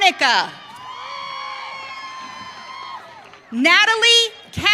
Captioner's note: audience cheering